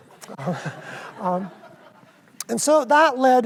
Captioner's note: audience laughs